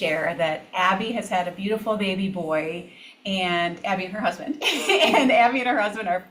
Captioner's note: laughs